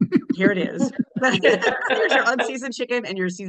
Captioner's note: everybody laughing